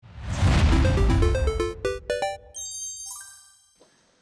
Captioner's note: electronic beeps